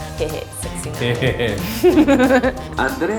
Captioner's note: laughing